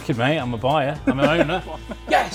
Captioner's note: laughs